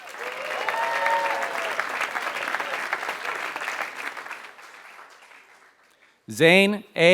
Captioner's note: applause